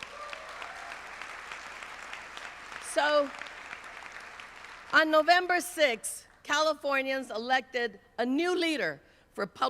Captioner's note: applause